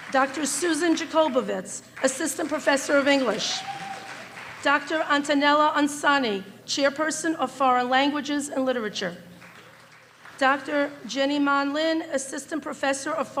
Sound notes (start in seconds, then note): 2.4 applause and cheering